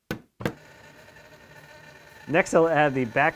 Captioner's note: saw buzzing